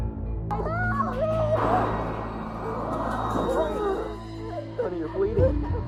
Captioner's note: movie playing on TV